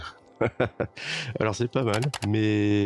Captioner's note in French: rire